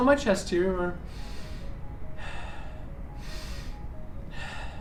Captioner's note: inhale, exhale